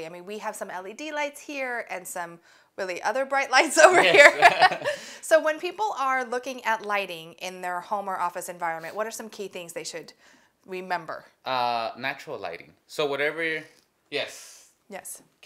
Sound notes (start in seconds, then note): 3.8 both laugh